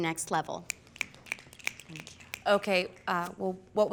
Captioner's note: fingers snapping